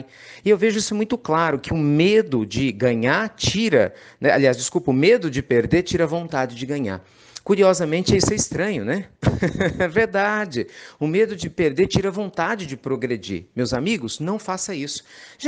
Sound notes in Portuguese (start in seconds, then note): 9.2 Risos